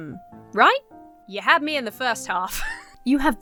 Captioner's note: wheezes